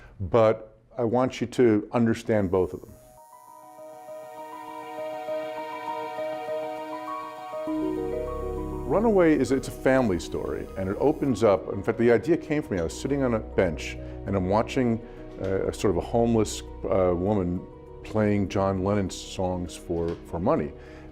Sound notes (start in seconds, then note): 4.0 haunting chime music; 5.5 tattoo machine buzzing